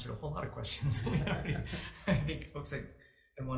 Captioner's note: laughs